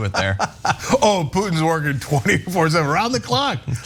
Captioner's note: laugh